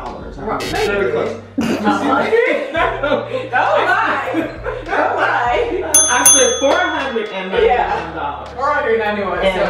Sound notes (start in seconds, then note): 1.6 laughing